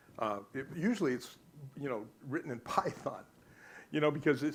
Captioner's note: laughs